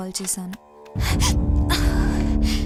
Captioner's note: gasps in pain